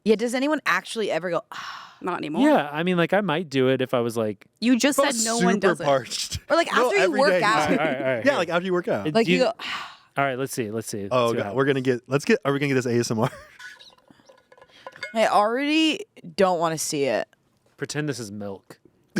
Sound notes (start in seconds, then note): 1.6 sighs; 9.4 sighs